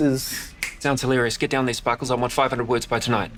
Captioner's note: snaps fingers